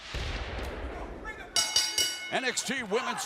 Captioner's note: bell ringing